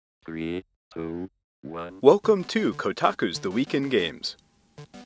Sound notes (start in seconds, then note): 0.3 robotic Voice